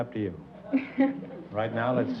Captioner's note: chuckles